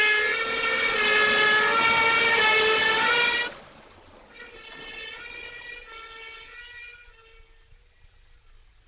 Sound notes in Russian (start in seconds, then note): 3.8 сирена удаляется